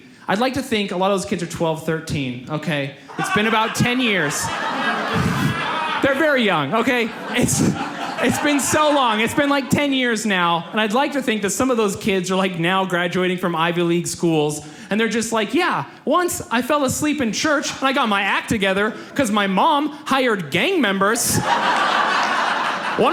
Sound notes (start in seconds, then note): 4.6 audience laughs; 21.2 audience laughs